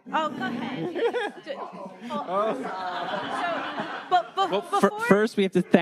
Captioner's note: all laughing